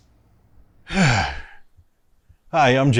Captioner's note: sighs